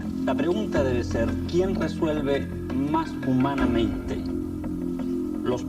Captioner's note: speaks in foreign language